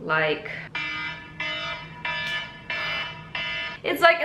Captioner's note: loud obnoxious alarm sound